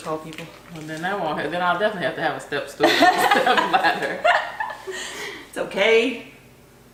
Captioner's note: laughter